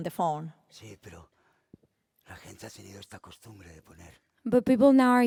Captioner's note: speaking spanish